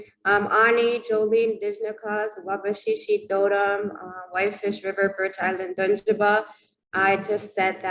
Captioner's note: speaking in Anishnawbemowin